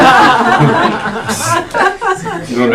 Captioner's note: all laughing